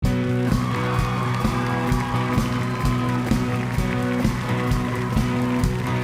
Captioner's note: upbeat rock music; audience cheering